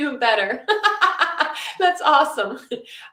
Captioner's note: laughing